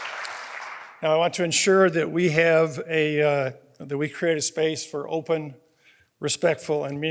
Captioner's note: applause